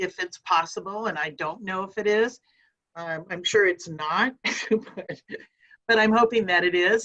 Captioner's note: chuckles